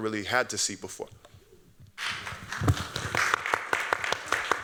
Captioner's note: applause